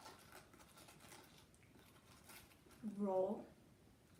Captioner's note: brush sounds